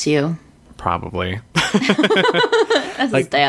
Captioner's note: laughs